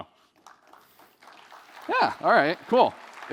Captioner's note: applause